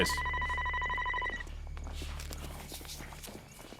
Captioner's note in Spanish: Suena teléfono